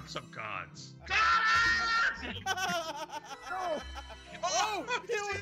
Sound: laugh

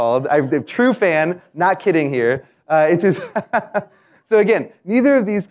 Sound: laugh

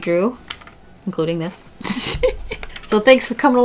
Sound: laughs

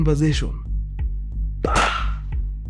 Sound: gun shot

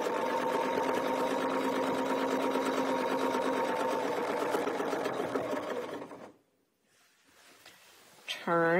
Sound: sewing machine whirring

